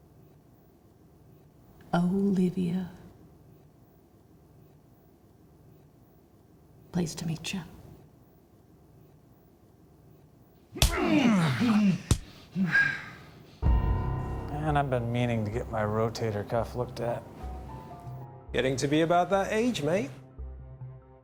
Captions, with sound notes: Olivia. Pleased to meet you. [punching, groaning] [suspenseful music] And I've been meaning to get my rotator cuff looked at. Getting to be about that age, mate.